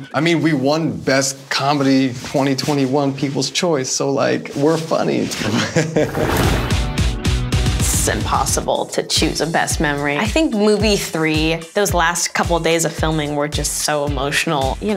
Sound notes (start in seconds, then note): 5.6 laugh; 6.0 upbeat music